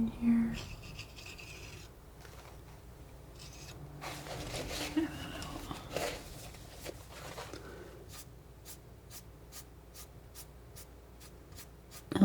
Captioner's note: scratching